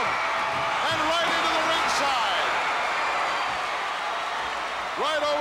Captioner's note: audience cheering